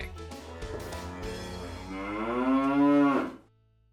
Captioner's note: cow moos